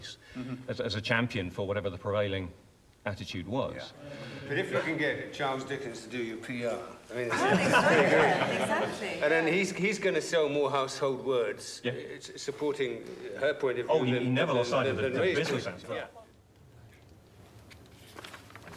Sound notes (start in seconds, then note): 7.3 laughter